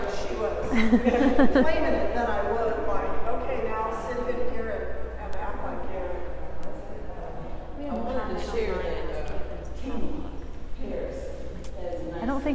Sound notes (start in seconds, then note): 0.7 laughing; 7.1 muffled conversation